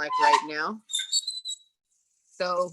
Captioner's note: oven door creaks